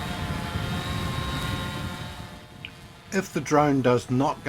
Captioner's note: drone humming